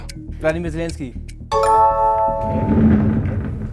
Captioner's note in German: Klingeln